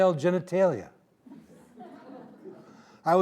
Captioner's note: audience laughing